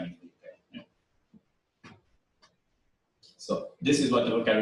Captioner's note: pause